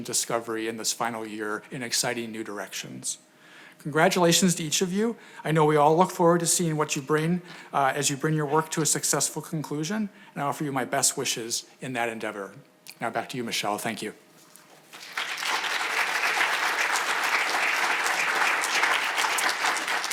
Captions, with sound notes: and discovery in this final year in exciting new directions. Congratulations to each of you. I know we all look forward to seeing what you bring as you bring your work to a successful conclusion and I offer you my best wishes in that endeavor. Now back to you, Michele. Thank you. (audience applauding)